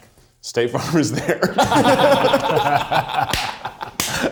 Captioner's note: group laughs